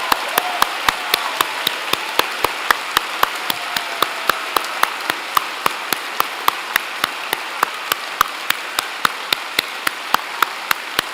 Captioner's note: cheers and Applause